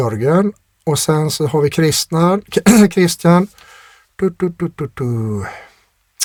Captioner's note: clears throat